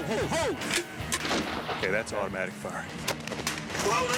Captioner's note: gunfire